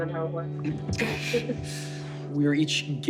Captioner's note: inhales sharply